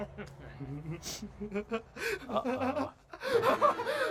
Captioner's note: laughs